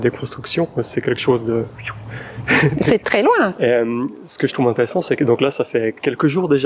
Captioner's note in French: il siffle